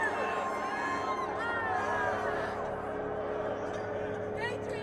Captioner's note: crowd cheering, yelling